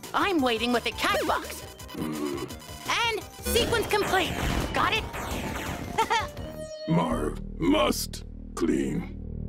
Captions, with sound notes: I'm waiting with a cat box and sequence complaint. Got it? (chuckles) - Marv must clean.